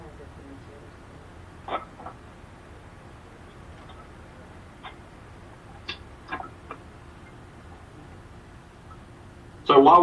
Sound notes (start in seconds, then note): 1.4 person speaking off mic